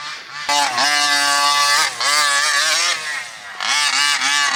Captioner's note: RC engine revving